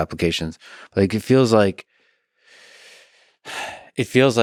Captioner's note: sighs